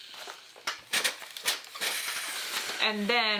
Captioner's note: steam sizzles